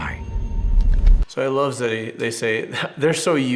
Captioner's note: chuckles